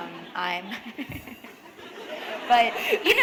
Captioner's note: laughter